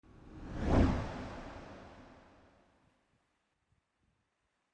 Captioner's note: air whooshing